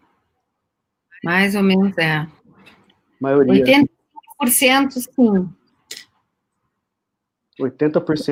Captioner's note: multiple voices